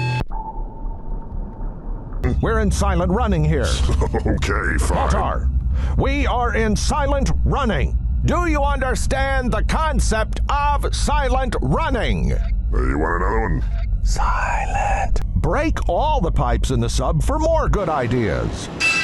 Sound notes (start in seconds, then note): 3.8 snickers